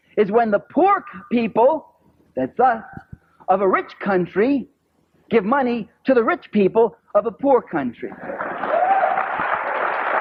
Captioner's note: applause